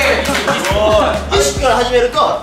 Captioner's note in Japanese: 拍手